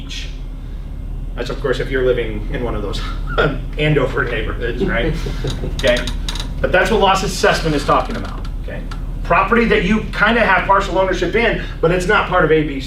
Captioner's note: laughs